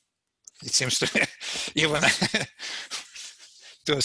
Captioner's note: laughs